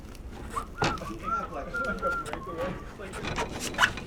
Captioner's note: whistling